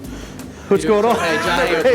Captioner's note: laughing